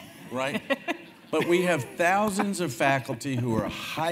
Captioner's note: laugh